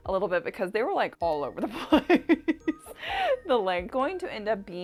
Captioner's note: laughs